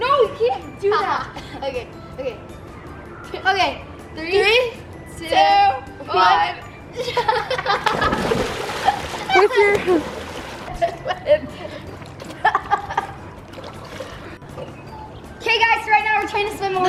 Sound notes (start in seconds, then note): 7.8 water splashes; 12.2 laughs